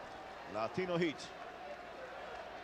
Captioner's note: applause